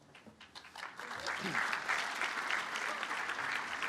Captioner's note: applause